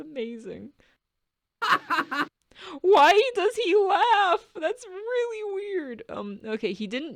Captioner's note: giggles; Darien laughs